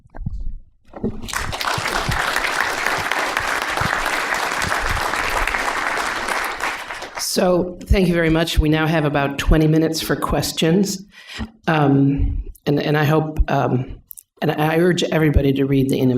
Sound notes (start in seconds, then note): 1.2 applause